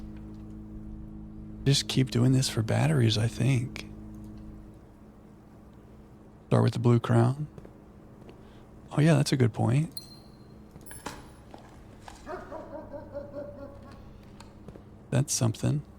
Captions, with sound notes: Just keep doing this for batteries I think. Start with the blue crown. Oh yeah that's a good point. [Door beeps] That's something.